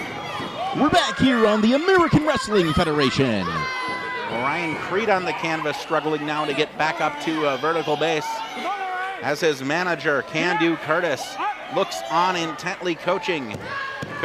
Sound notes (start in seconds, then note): 0.1 crowd shouts; 3.7 cheering and shouting